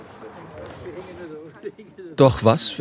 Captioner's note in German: Leise Gesprächsfetzen